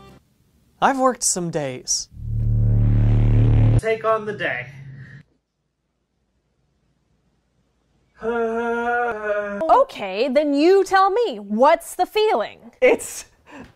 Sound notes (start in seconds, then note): 8.2 anguished Groan